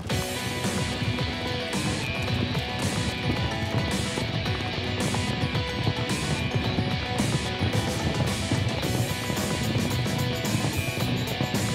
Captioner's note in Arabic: ضربات حافر سريعة